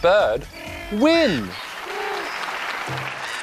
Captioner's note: cawing, chirping